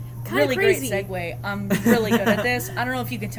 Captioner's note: laughs